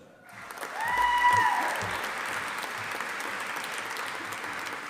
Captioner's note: audience applauding